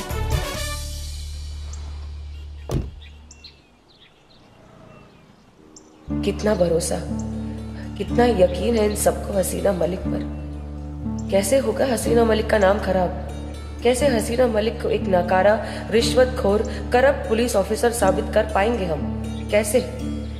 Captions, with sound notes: [car door closes] 'So much trust.' 'They believe in Haseena Malik so much.' 'How can I tarnish Haseena Malik's name?' 'How will I be able to prove that Haseena Malik is a corrupt, ' 'bribe-taking, and inefficient police officer?'